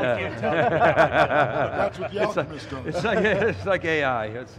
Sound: laughing

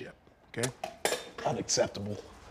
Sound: coffee pot lid clangs

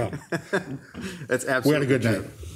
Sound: laughing

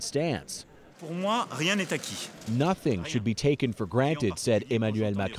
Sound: speaking French

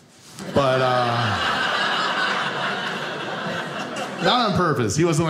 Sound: audience laughing

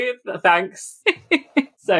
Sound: laughs

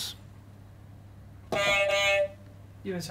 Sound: beep beep

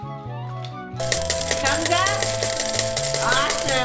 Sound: jackpot noises

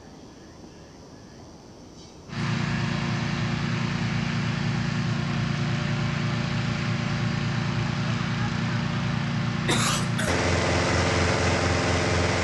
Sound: audience applauds

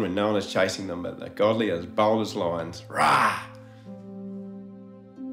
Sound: roars

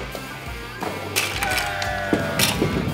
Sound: crash

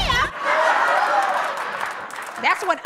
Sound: laughter

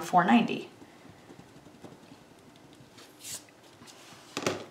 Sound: pen scribbles

